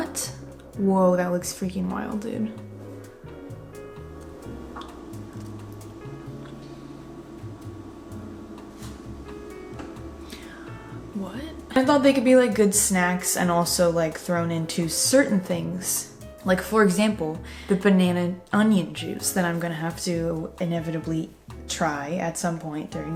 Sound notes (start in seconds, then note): 4.8 sniffs banana